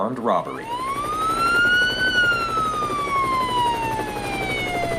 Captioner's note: sirens wailing